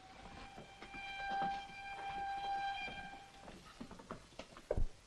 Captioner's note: high-pitched horn wails